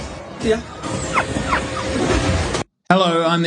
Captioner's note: dog whimpering